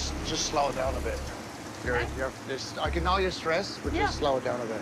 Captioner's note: stammering